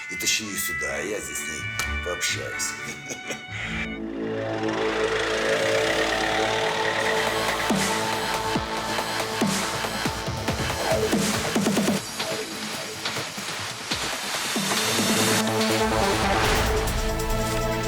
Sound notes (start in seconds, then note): 2.4 chuckles; 3.9 background music